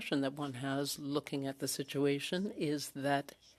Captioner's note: speaking French